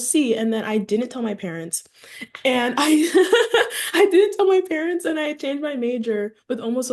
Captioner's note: laughs